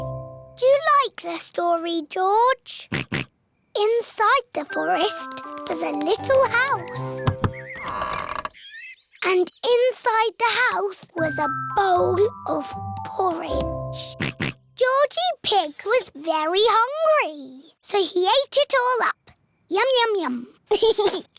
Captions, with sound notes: -Do you like this story, George? -(OINKS) Inside the forest was a little house. (DOOR CREAKS) And inside the house was a bowl of porridge. (OINKS) Georgie Pig was very hungry. -So, he ate it all up. Yum-yum-yum. -(GIGGLES)